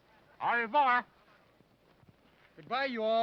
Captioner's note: speaking foreign language